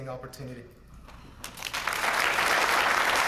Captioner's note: applause